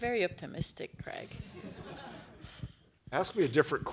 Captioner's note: laughter